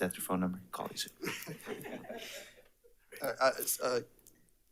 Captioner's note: attendees laughs